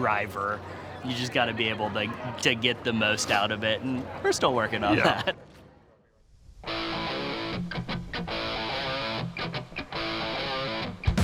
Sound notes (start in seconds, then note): 4.8 laughs; 10.1 heavy metal music